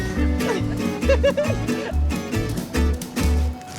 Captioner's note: bright guitar music; chuckles